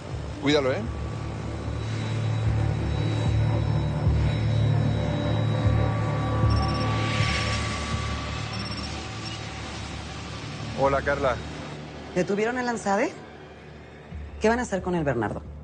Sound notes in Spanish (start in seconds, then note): 6.4 Suena un celular